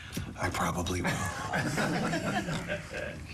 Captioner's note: laughter